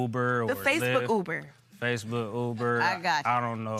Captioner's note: normal voice